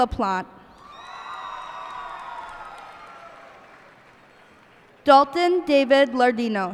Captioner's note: cheers and applause